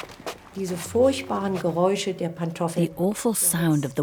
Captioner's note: speaks in foreign language